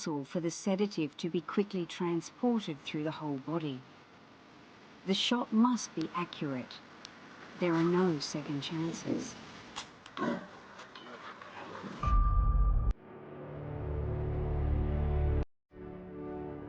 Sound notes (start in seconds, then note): 10.1 animals growl; 12.0 dramatic music